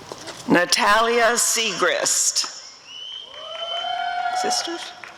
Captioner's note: applause and cheering